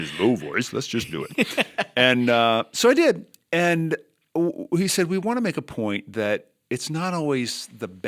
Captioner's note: chuckle